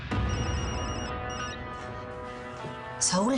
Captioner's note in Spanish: Suena el celular